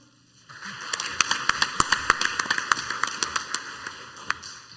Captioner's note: crowd applauds